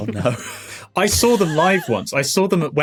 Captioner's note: wheezes; snickers